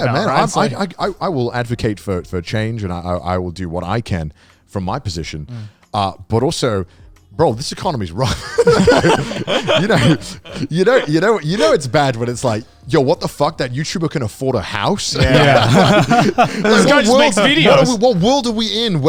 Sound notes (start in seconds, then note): 8.2 all laughing; 15.1 all laughing